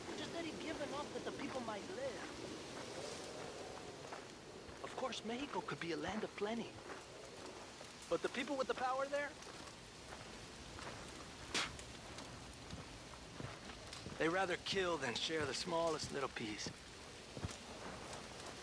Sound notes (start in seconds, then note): 11.5 spits